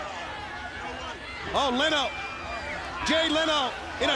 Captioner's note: crowd cheering